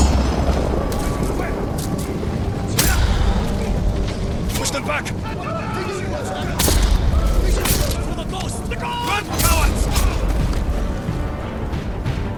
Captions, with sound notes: (suspenseful music) - Push them back. (yelling) (suspenseful music) - For the ghost. - Run, cowards. (suspenseful music)